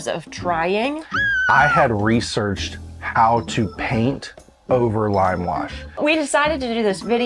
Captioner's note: funny scream